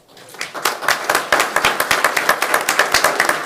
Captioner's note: clapping